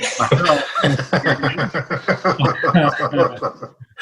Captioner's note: everyone laughs